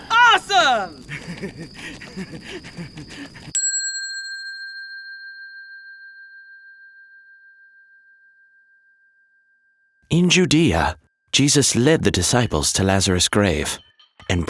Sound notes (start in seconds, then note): 0.0 Thomas laughing; 3.7 bell dinging